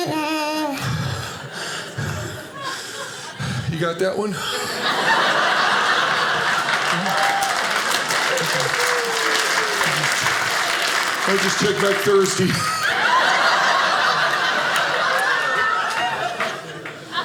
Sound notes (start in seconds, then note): 0.0 humming theme music; 4.6 audience laughing; 7.6 audience applauding; 12.7 audience laughing